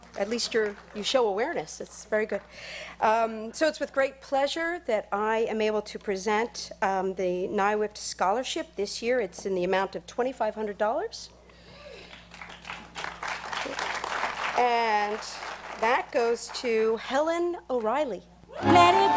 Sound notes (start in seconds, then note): 12.0 applause